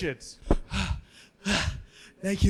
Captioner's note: panting